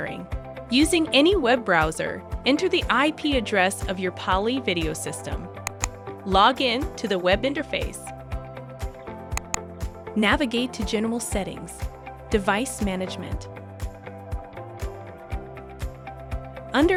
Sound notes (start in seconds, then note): 5.6 mouse click; 9.3 mouse click